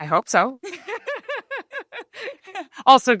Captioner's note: laughter